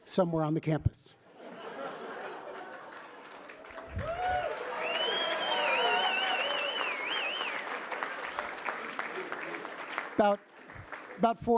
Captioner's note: laughter, cheering